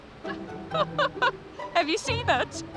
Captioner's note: laughs